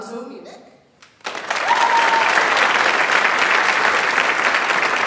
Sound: audience applauds

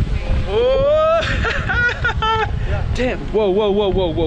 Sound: laughing

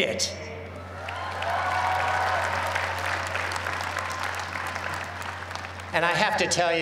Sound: cheers and applause

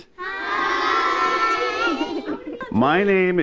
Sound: laughter

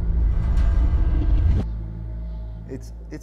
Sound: slightly comic reverse audio noise

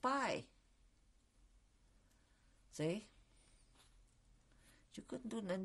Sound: pauses for 3 seconds

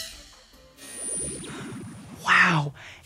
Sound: logo zaps

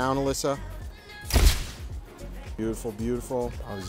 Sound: camera shutter snaps

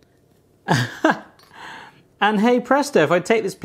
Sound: laughs

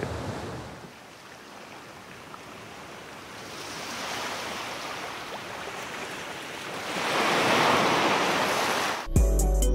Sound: growing sound of waves

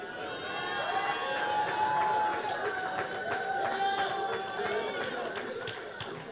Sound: audience applauding

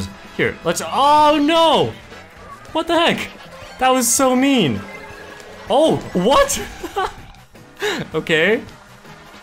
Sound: laughs

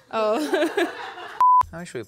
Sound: laughing

